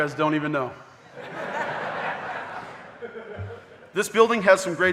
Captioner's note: audience laughing